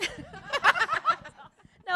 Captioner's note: laughter